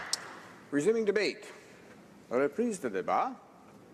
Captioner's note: applause